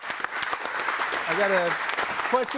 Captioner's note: audience applaud